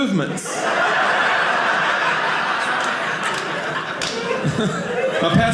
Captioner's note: audience laughing